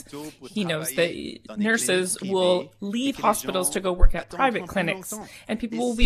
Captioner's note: speaking French